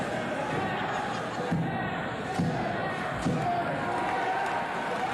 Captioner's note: cheers and applause